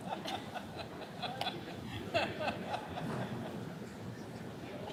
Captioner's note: attendee laughing